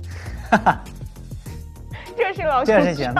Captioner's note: haha